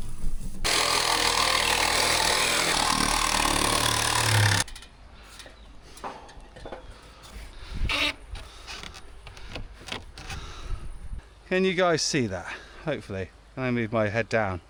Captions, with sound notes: (drill whirring) Can you guys see that? Hopefully. I'm gonna move my head down.